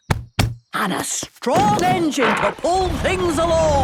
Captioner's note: thumping